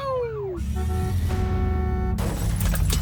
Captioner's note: car horn honking